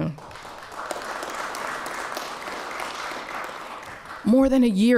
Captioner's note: applause